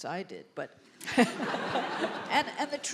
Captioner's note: laughter